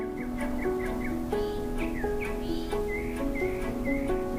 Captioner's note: upbeat music; birds chirping